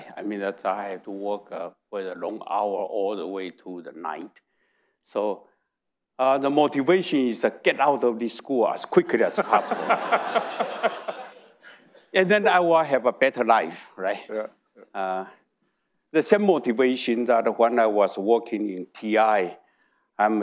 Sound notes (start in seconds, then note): 9.3 audience laughing